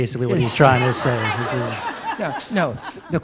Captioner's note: laughter